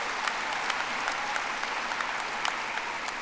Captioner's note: audience applauding